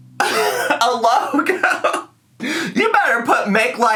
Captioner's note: laughs